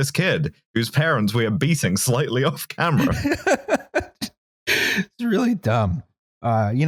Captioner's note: laughs